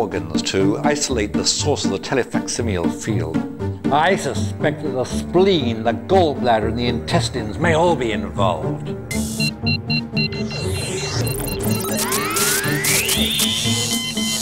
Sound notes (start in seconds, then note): 9.0 laboratory machinery beeping; 11.6 loud overload alarm